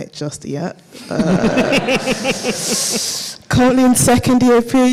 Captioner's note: all laugh